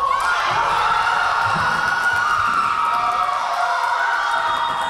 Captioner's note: Tigers cheering